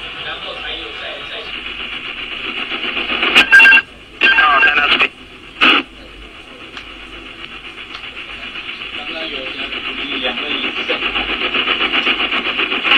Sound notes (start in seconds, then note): 3.3 stall Alarm; 4.1 Static